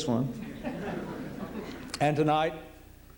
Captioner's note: laughter